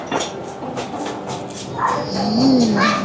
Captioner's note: nom nom nom